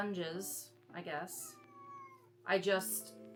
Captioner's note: meow